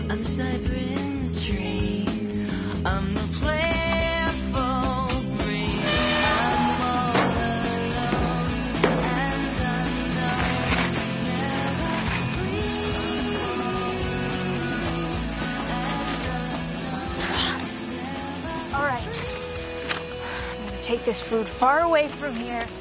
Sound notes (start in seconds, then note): 5.7 door squeaks